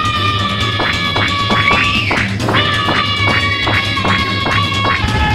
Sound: screaming; popping; screaming

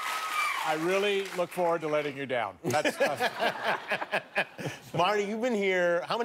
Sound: cheers and applause

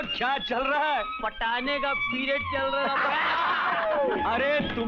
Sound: laughs

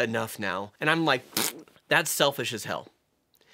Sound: pffftttt

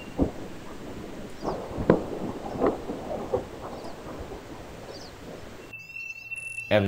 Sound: booming crash

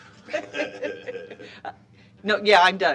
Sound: laughter

